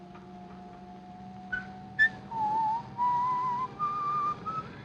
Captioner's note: whistling